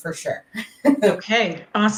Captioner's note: laughing